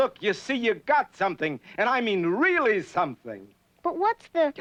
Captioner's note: none